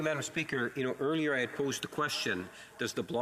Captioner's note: speaking French